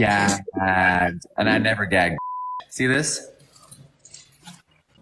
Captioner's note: beep